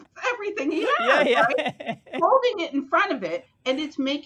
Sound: chuckles

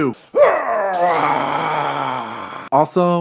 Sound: manly growls

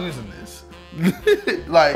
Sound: laughs

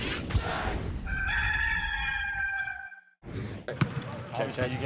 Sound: rooster crow

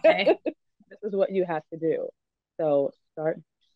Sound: laughs

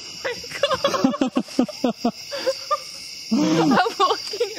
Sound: laughter

